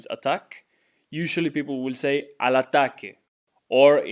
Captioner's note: speaking in Spanish